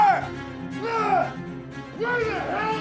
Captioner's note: monitors whirring